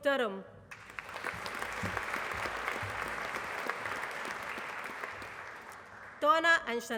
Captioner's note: applause